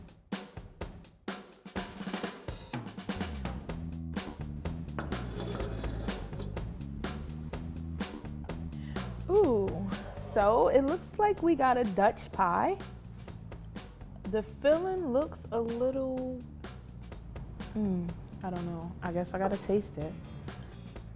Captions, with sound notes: (upbeat music) (plates cluttering) - Ooh, so it looks like we got a Dutch pie. The filling looks a little... I don't know, I guess I gotta taste it.